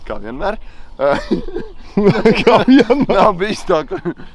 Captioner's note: laughing